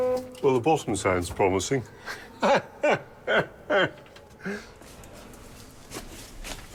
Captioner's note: laughing